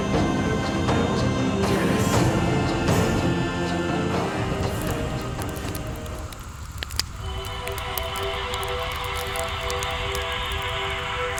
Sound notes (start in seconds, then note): 5.7 fire crackling; 7.2 mysterious music